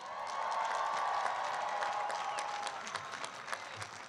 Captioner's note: applause